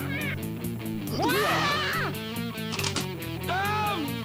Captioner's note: Gazbo yelps